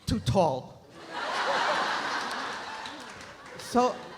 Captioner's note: Jared laughs; audience laughs